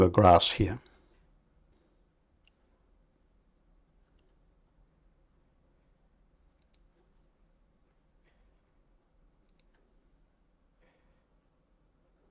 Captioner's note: silence